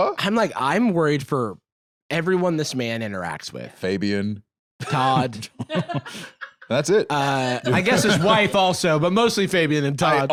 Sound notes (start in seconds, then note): 4.8 laughs